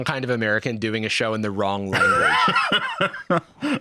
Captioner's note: laughs